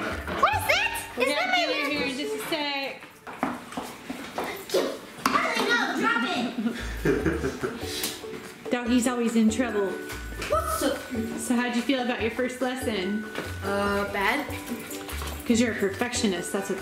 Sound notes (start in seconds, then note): 4.6 chattering; 4.6 chuckles